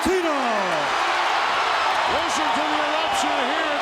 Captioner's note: audience cheering